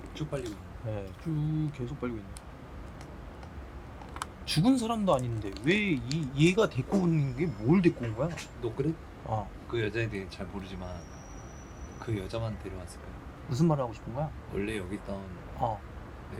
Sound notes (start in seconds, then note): 5.6 nervous Noise; 9.7 nervous Noise